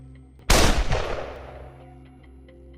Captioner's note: gunshot